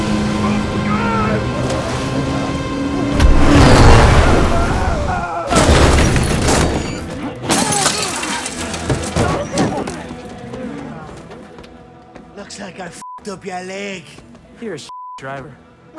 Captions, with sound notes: (Dalton screams) (Ben screams) (loud crash) (glass breaks) - Looks like I (beep) up your leg. - You're a (beep) driver.